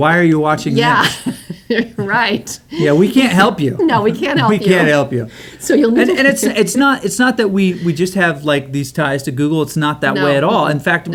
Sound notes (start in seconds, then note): 5.1 laughs